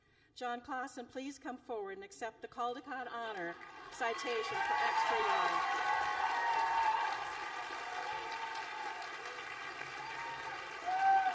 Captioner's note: applause